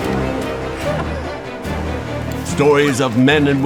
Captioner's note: gasping